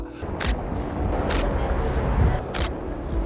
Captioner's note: camera shutter clicks